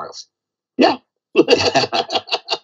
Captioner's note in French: rires